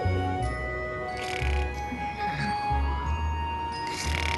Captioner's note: snoring